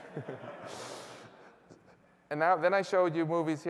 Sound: laughter

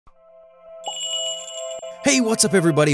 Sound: magical jingle

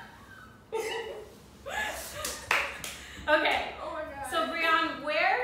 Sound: laughter; laugh; clap

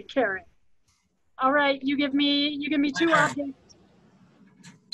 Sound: audio blurs

